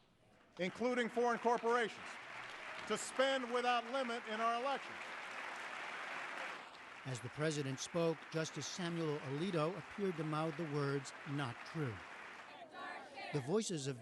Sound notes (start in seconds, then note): 0.4 applause